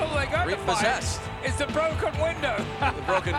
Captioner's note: laugh